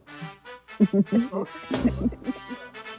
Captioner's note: all laughing